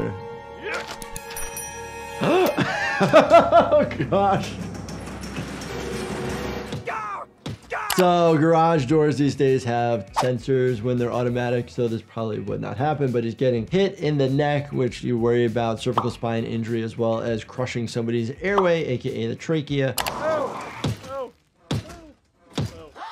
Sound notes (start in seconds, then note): 0.2 dramatic music; 4.2 garage door clattering; 6.9 Homer shouting; 22.8 Marge gasping